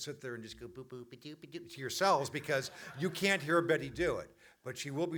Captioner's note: audience laughter